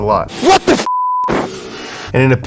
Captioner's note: beep